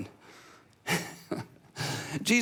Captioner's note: laughs